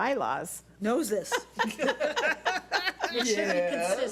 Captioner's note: laughing